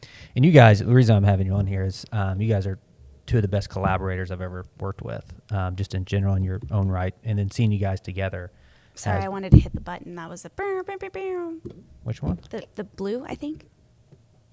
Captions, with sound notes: You guys, the reason I'm having you on here is you guys are two of the best collaborators I've ever worked with, just in general, in your own right. -Then seeing you guys together has-- -Sorry, I wanted to hit the button that was [MIMICS SOUND] -Which one? -The blue, I think.